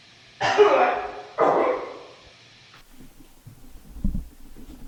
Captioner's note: Jacob coughing